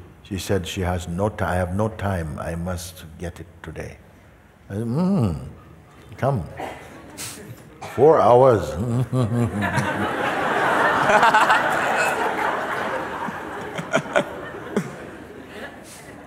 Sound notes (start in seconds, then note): 9.0 imitates struggling; 10.9 laughter